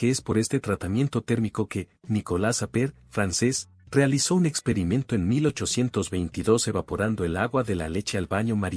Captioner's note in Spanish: francés